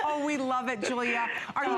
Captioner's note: laughter